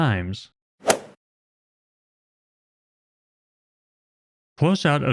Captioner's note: golf ball hit sound effect